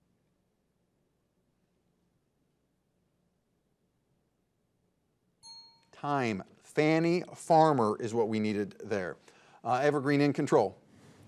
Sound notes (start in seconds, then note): 5.4 bell rings